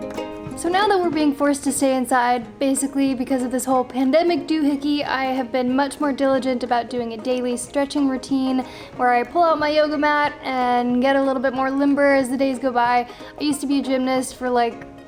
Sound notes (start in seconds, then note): none